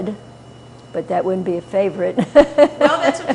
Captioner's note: laughter